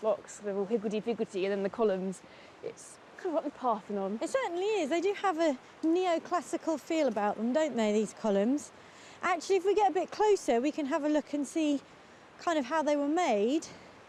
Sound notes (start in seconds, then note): none